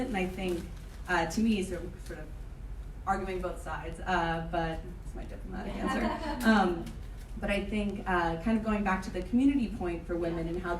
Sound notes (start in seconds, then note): 5.7 laughing